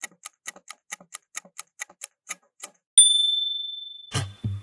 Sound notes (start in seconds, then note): 0.0 timer ticking; 3.0 ding!